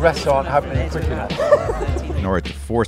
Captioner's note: oink laughter